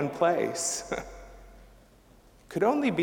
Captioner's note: chuckling